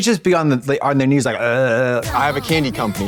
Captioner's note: Katya gobbbles